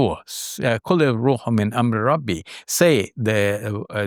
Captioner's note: speaks in foreign language